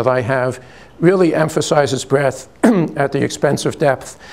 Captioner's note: clears throat